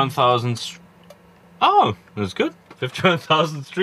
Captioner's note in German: englisch